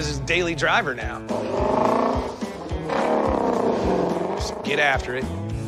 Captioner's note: engine revs